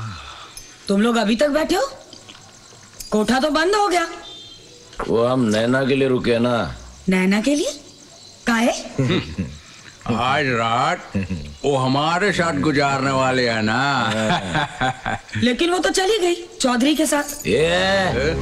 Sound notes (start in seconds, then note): 13.8 Laughs